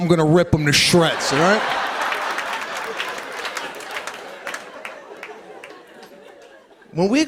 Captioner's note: laughter and applause